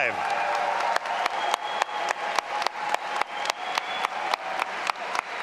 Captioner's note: all applauding and cheering